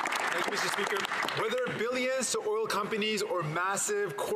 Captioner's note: some Applause